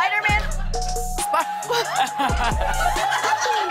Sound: laughs

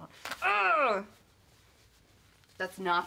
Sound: fabric ripping; grunting

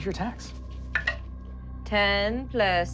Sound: rolling dice

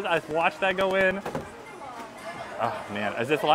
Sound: tub thumping

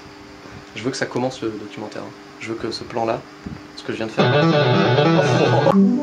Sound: laughs

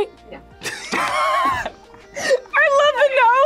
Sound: both laugh

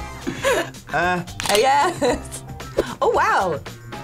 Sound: laughs; laughs

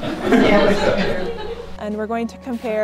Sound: laughter

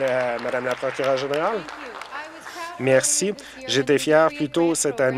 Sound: applause

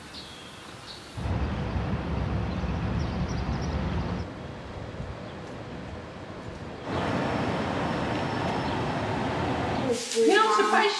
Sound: birds chirping; cars passing; family chatter

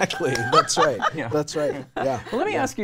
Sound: laughing

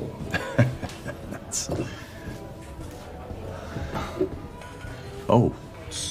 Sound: laughs

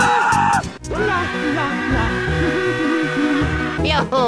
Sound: King Boo screams as Mario hums

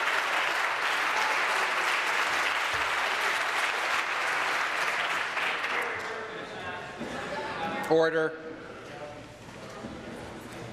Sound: some Applause

